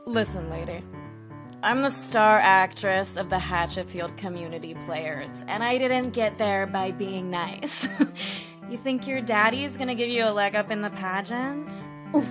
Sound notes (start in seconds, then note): 8.1 laughs